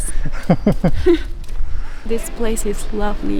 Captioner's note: laughs